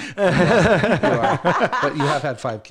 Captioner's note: laughing